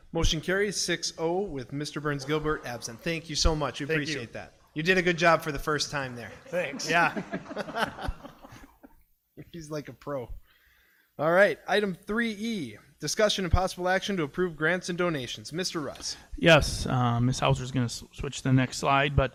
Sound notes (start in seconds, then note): 6.2 laughs; 6.3 everybody laughing